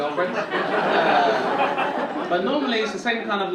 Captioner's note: audience laughing